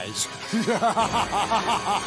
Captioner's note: evil laugh